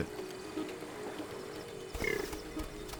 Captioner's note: warthog snorting